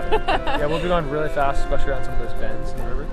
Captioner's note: laughter